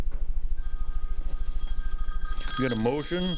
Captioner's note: telephone ringing